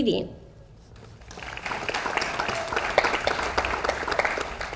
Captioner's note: audience applauds